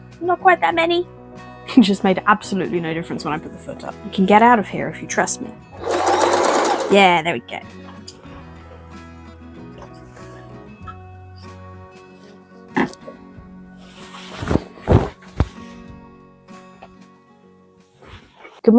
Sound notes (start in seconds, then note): 9.0 sewing machine noises